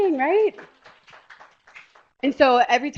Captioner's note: applause